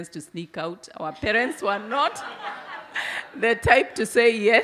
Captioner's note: audience laugh